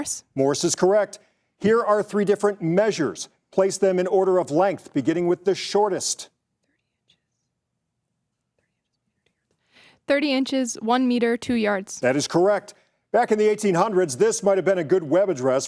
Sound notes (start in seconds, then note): 6.7 participants whispering